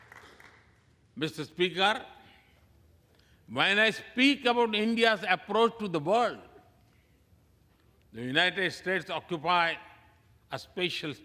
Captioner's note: applause